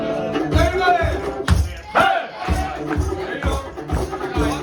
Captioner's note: crowd yelling “HEY!”